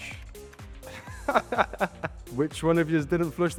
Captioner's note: laughs